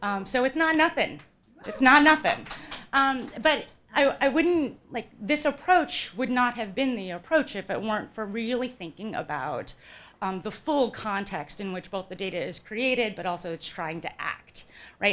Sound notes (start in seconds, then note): 1.6 audience member cheers; 2.9 audience applauds